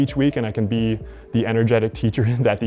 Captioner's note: laughs